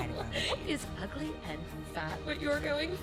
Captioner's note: laughing